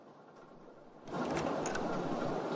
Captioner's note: door opens